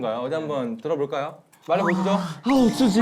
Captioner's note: deep sigh